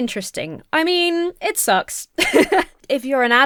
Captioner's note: laughs